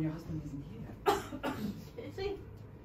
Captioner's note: coughing